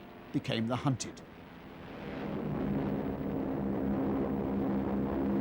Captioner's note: humming, rumbling